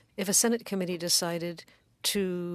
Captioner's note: speaking French